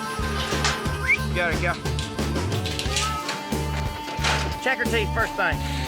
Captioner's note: whistles